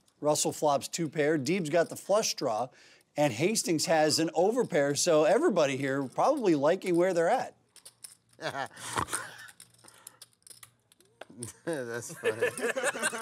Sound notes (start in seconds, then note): 9.5 snort; 11.4 laughing